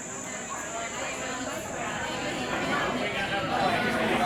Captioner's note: crowd chattering